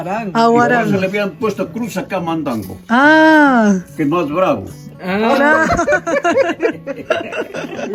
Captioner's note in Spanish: Risas